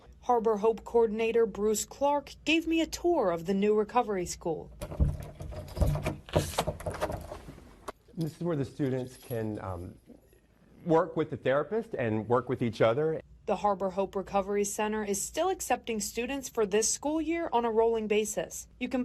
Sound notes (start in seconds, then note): 4.7 key unlocking door; 4.8 door opening